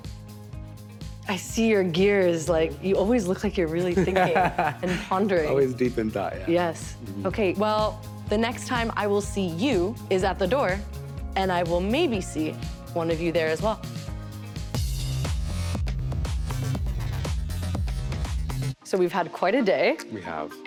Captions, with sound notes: - I see your gears like you always look like you're really thinking and pondering. - (laughs) Always deep in thought. Yeah. - Yes. Okay. Well the next time I will see you is at the door and I will maybe see one of you there as well. (upbeat music) So we've had quite a day.